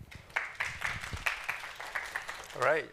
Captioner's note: applause